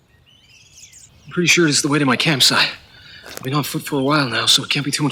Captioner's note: Bailey gasping for breath